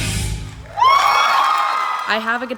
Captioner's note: audience cheering